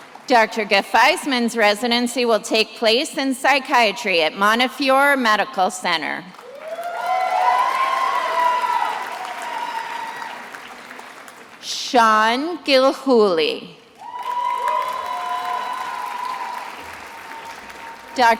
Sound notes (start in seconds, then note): 6.3 attendees applauding and cheering; 14.0 attendees applauding